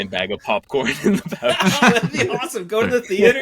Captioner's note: laughing